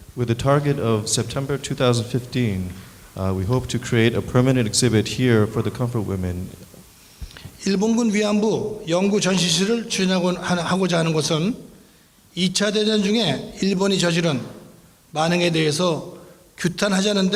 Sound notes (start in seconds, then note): 7.9 speaking in foreign language